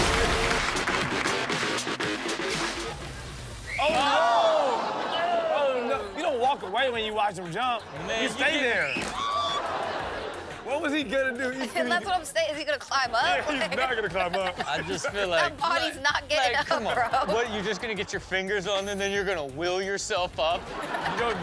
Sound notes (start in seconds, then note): 0.2 audience cheering and clapping; 9.1 woman screams; 10.1 audience exclaims